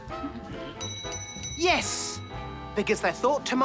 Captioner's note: bell dings